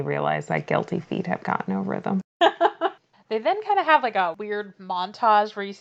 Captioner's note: laughs